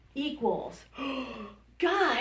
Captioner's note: gasps